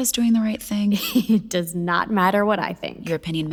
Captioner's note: snickering